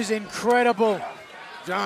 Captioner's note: crowd chatter